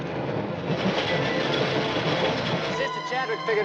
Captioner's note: train rumbling